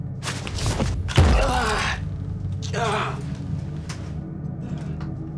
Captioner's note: thuds, grunts; suspenseful music